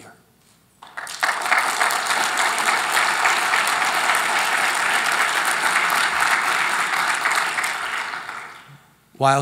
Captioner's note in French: Applaudissements